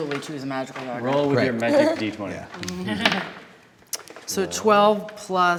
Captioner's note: die clacking